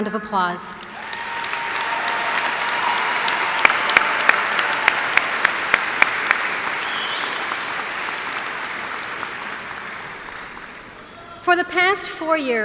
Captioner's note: cheers and applause